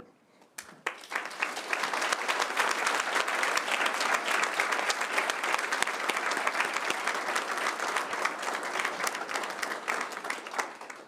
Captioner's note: applause